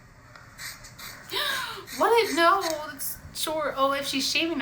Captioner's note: gasps